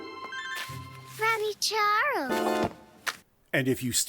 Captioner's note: from offscreen, flirtily